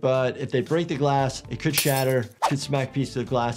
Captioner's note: glass shattering